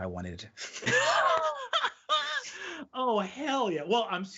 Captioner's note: laughing